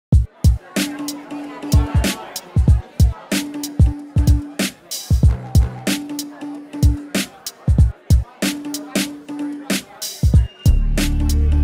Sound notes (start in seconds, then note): 0.0 percussive music; 3.4 chatting in the background